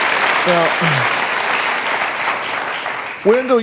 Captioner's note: applause